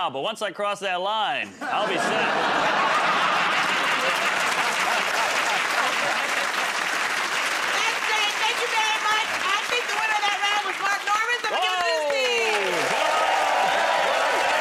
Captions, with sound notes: But once I cross that line, I'll be set." [ Laughter ] [ Applause ] -That's great. Thank you very much. I think the winner of that round was Mark Normand, so I'm going to give it to his team!